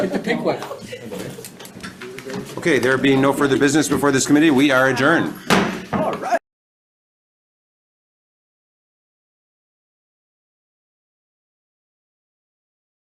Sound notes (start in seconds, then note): 5.4 gavel clanks